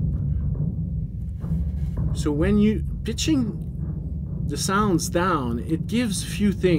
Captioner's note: big beating sounds